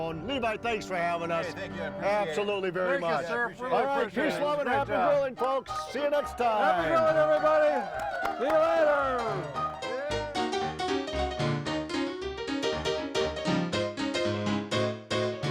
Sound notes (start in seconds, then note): 4.6 ragtime piano music; 8.9 ragtime piano music; 9.0 crowd cheering